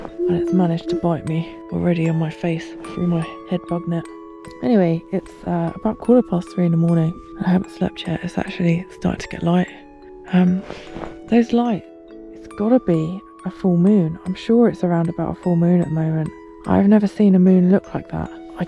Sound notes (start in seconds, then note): none